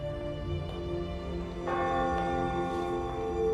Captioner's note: church bell ringing